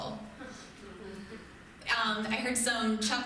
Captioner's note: crowd chuckles